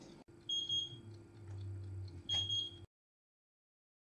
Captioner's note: oven timer beeps